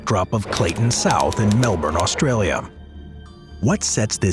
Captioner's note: typewriter clicking